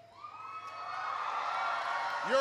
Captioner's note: applause